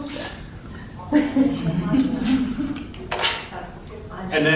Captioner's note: laughing